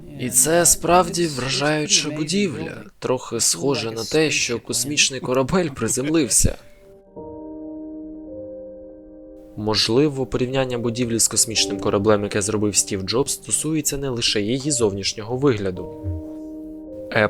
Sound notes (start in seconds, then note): 6.6 laughs; 7.2 calm instrumental music